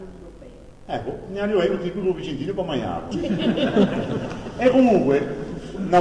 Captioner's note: laughs